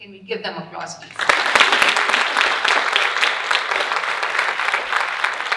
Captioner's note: audience applauding